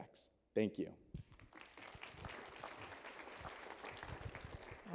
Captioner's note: applause